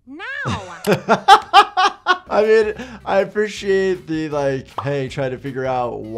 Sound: laughs

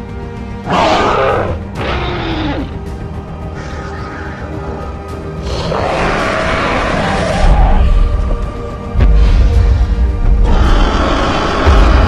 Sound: Spinosaurus Growls and Stomping Sounds

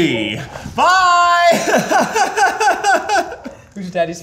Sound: crying

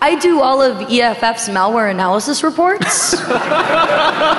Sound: laughing

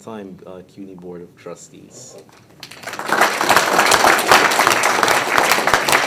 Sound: audience applauding

